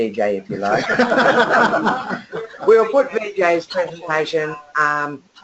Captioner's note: laughter